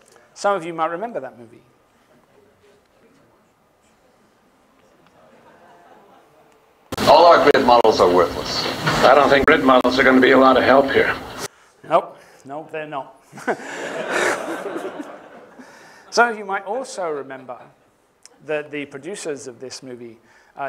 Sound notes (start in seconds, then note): 2.1 chatter; 13.2 laughter